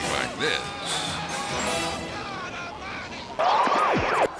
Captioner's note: screaming; logo whooshes